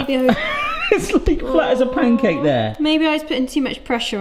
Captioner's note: chuckles